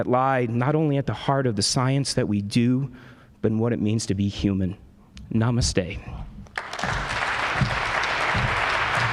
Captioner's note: applause